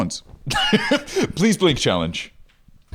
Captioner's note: laughs